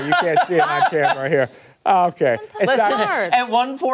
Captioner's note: laughter